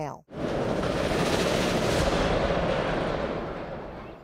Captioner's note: garage door rattling